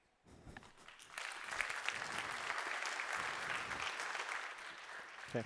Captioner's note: applause